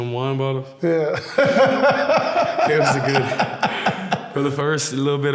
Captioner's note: laughs loudly